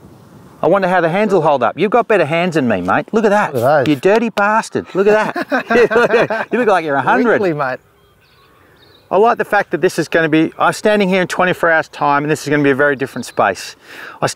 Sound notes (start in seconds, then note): 4.9 laughter